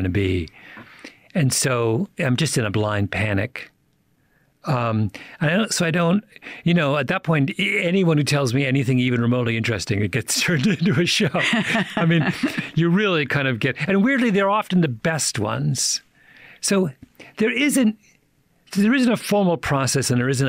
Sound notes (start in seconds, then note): 10.4 chuckles